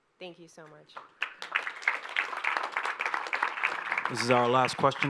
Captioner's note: audience applauding